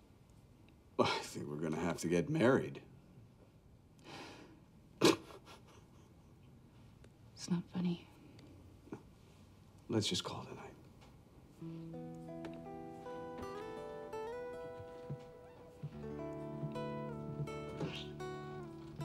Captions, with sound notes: - Well, I think we're gonna have to get married. (Sarah sighs) (laughing) - It's not funny. - No. Let's just call it a night. (thoughtful music)